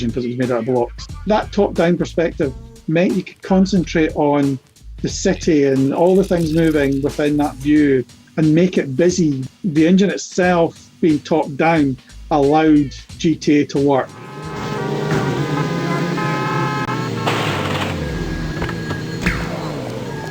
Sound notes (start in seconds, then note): 14.0 horns blaring